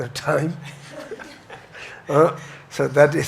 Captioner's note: audience chuckles